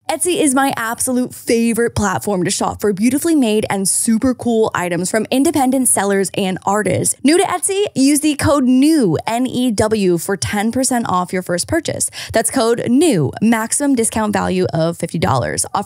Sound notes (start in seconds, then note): none